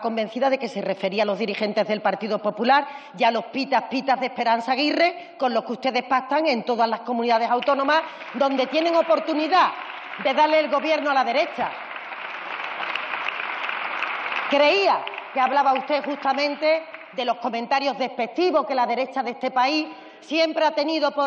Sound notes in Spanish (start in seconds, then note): 13.1 Aplausos